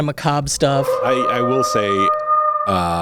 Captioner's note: wolf howling